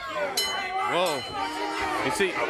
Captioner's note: bell rings